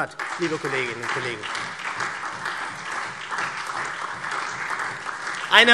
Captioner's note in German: Beifall SPD und vereinzelt DIE LINKE